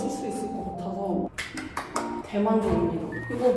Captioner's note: clap clap clap clap